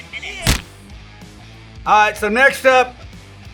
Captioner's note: object splats